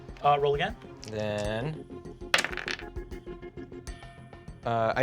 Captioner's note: rolls dice